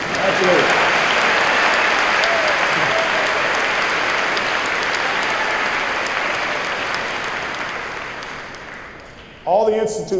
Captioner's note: applause